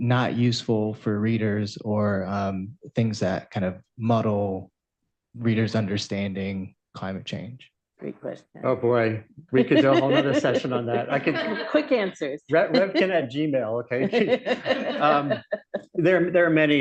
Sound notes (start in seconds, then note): 9.5 laughter; 12.4 laughs; 15.2 laughter